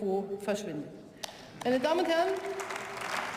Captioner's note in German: Beifall